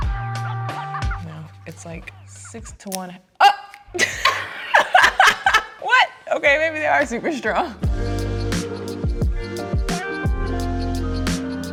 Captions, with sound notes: No it's like six to one. Oh (laughs) what? Okay maybe they are super strong. (relaxing R&B music)